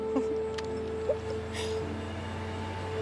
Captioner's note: laughs